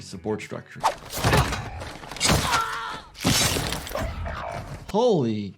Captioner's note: hammer swishing; character screaming